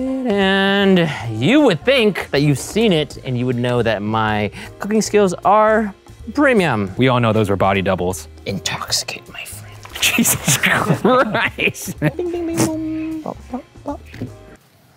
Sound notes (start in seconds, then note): 9.9 laughs